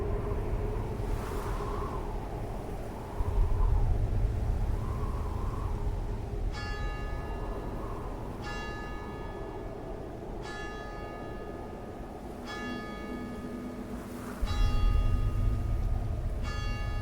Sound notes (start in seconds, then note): 0.0 wind whooshing